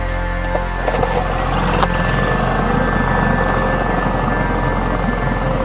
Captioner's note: boat engine rumbling